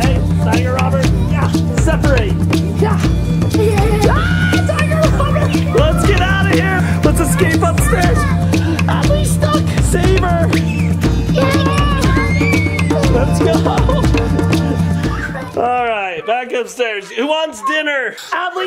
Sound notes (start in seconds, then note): 3.9 yells; 11.3 screams